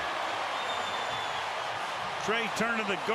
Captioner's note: cheers